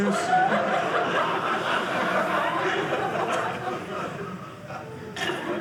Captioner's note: audience laughing